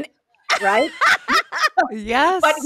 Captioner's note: laughs